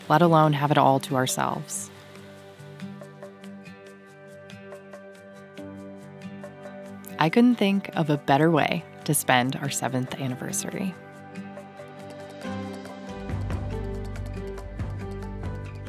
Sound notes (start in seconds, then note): none